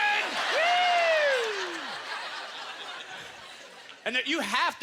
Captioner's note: audience laughter